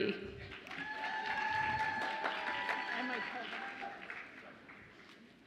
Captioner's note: audience applauds and cheers